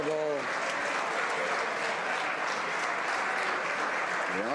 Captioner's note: some Applause